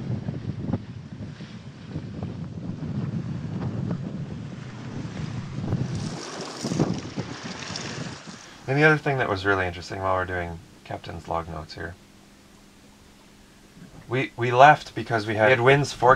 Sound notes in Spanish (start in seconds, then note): 6.1 salpicaduras de agua